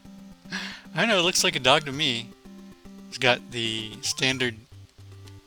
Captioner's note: laughs